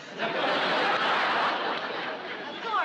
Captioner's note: audience laughing